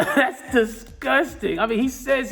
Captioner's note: laughing